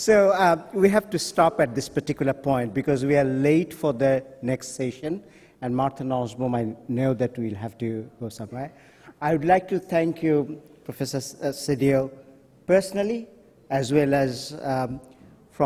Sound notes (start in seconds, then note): 5.6 voice is muffled